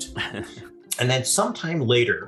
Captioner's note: chuckles